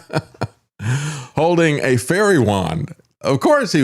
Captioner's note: laughs